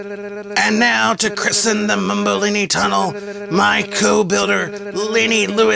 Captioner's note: makes drum roll sound